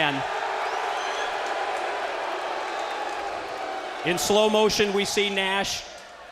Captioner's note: crowd cheering